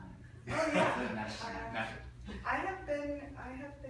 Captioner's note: laughing